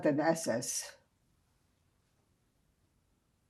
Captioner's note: pauses 8 seconds